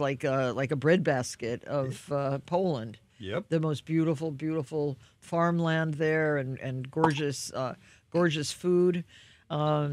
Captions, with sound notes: like a bread basket of Poland. - Yep. - The most beautiful, beautiful farmland there. (cork pops) And gorgeous food.